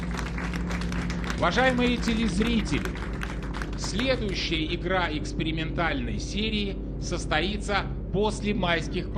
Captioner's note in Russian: аплодисменты